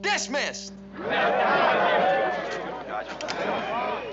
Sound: murmuring

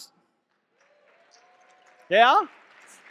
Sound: audience clapping and cheering

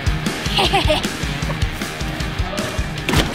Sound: laughs

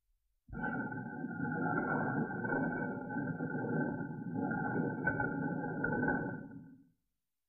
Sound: grinding

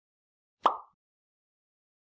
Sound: pop sound effect

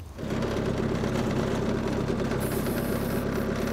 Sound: motor rumbling

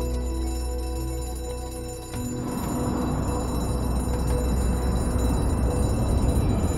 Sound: tense ominous music; alarm clanging

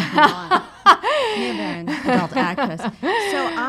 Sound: laughs

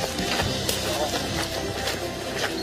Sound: running

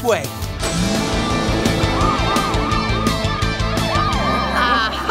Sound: sirens blaring

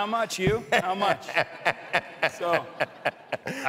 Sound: laughs

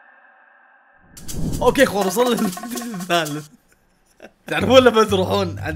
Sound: laughs

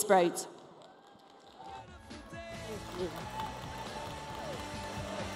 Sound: applause

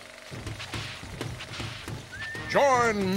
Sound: background film reel whirring; background steam boat chugging

